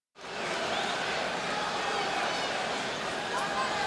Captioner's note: audience cheering